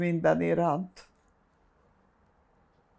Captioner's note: pauses 6 seconds